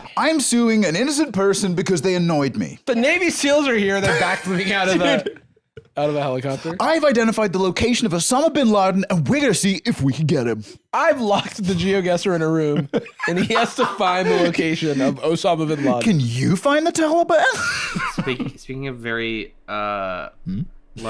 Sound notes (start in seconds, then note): 17.7 laughs